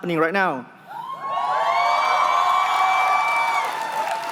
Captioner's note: cheering